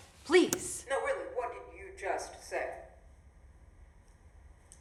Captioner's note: computer keyboard click